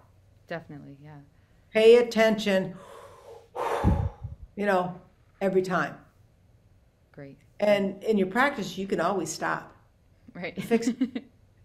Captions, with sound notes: Definitely, yeah. Pay attention... [takes breath] You know, every time. Great. In your practice, you can always stop. Right [laughs]